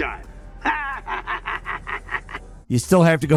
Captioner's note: laughing